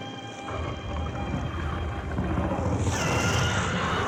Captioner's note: faint growls; wild animal squawks